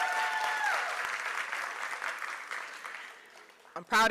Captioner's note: applause